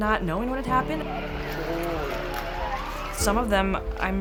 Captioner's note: background sirens and chatter